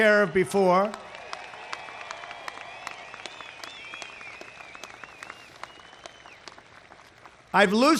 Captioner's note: applause